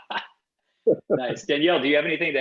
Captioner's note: laughs